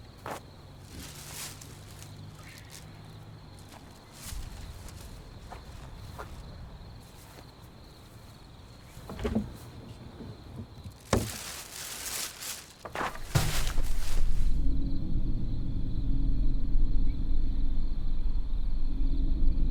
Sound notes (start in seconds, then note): 0.0 bags rustle; 8.7 bag rustles; 9.2 can clatters; 13.5 quiet, menacing music; 14.6 crickets chirping